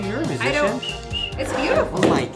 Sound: whistles

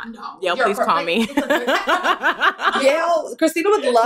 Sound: laughter

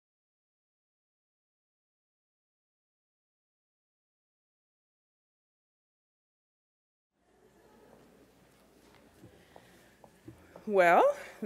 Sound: silence

